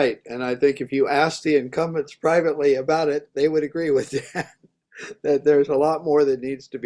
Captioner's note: laughs